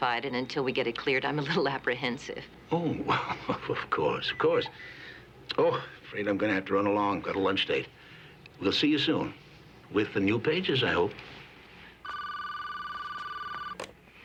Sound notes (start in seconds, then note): 4.2 beeping; 12.0 phone rings